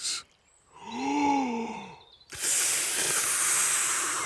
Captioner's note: takes big breath and blows